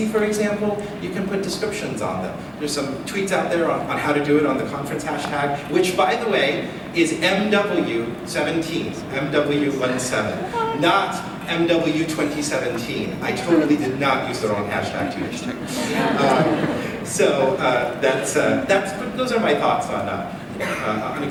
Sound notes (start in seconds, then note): 16.6 laughs